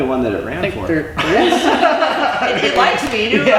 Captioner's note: they all laugh